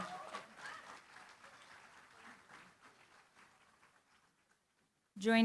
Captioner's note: applause